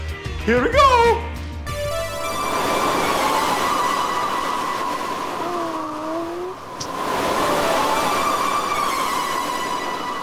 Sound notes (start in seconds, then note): 3.7 wind tornado sounds